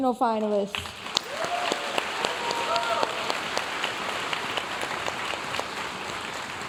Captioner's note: audience cheering and applauding